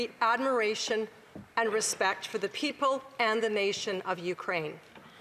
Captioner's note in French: voix de l'interprète